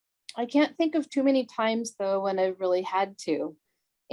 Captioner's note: none